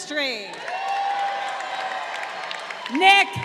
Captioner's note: crowd cheering